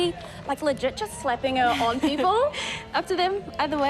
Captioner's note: laughs